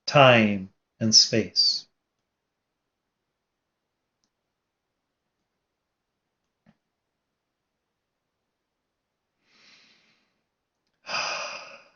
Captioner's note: exhales 4 times